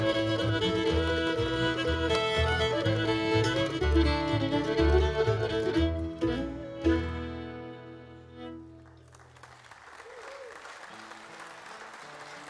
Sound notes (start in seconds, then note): 8.8 audience applauds